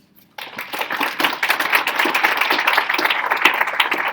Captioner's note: audience applauding